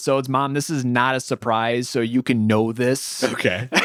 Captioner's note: laughs